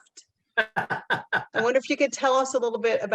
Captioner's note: laugh